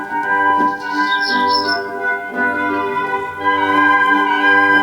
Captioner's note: birds chirping